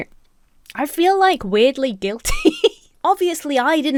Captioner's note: chuckles